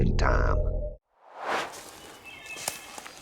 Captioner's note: swoosh